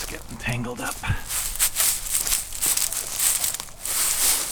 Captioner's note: metal rattles